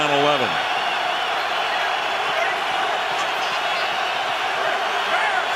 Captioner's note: cheering